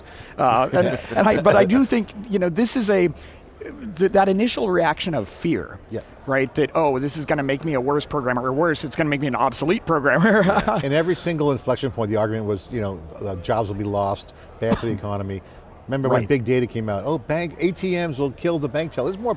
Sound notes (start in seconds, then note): 0.5 laughing; 10.5 laughs; 14.6 coughs